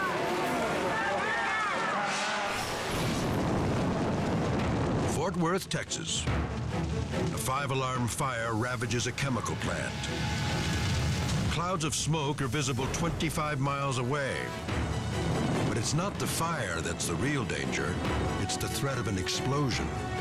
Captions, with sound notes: (people shouting) (fire whooshing) Fort Worth, Texas. A five alarm fire ravages a chemical plant. Clouds of smoke are visible 25 miles away, but it's not the fire that's the real danger, it's the threat of an explosion.